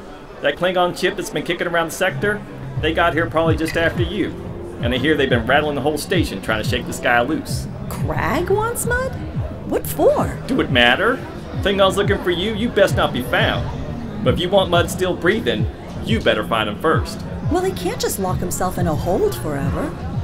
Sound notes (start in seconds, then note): none